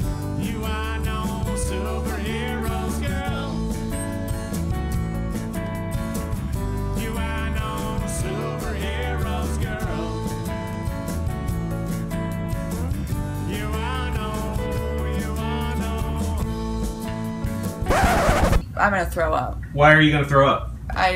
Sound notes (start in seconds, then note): 17.8 record scratching